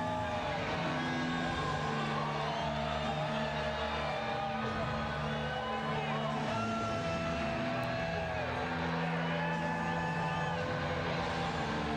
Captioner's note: cheers and applause